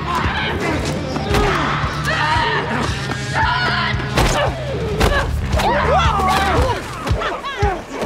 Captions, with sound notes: (people fighting) - Argh! Argh! Woo!